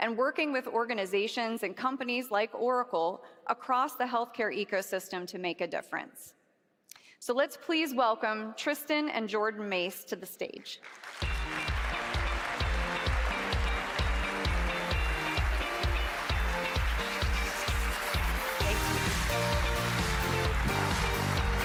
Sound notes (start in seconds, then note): 10.3 applause; 12.2 upbeat music